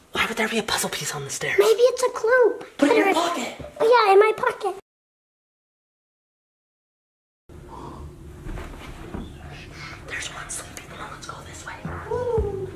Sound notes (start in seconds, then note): 7.6 ghost snoring